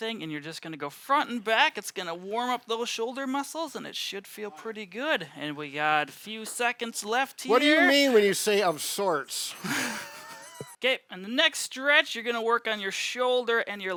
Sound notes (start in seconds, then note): 9.5 both laughing